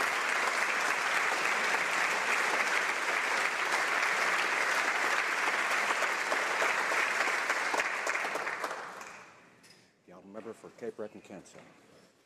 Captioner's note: some Applause